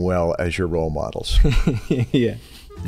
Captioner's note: chuckle